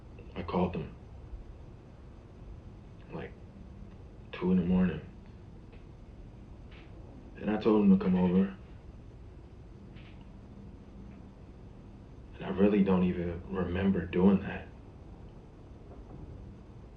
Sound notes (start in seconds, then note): none